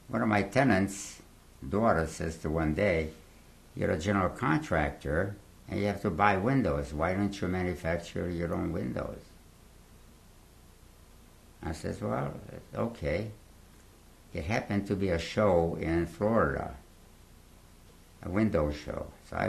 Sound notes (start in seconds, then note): 9.0 pauses for 3 seconds